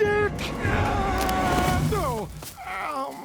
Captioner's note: Homer yells; Homer grunts